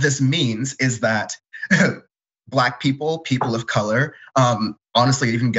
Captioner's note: laugh